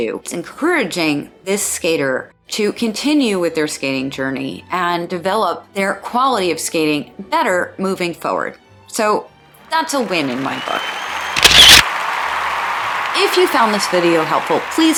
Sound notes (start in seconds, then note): 9.8 applause; 11.3 camera shutter noise